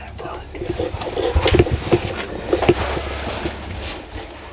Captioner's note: whispering